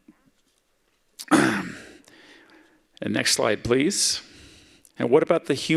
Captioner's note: clears throat